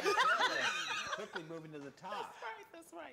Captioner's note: laughing